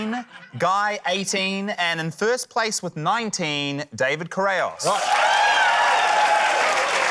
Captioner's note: cheering, applause